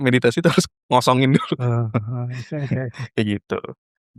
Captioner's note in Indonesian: tertawa